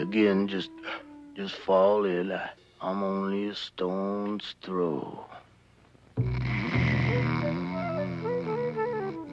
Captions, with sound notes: just fall in line (yawns) I'm only a stone's throw. (snoring)